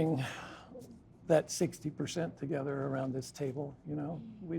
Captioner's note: sighs